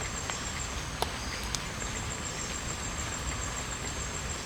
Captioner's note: water splashing